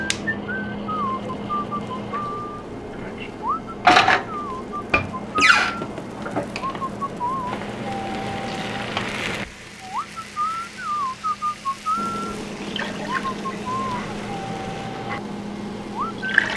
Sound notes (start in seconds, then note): 0.0 happy whistling; 4.1 happy whistling continues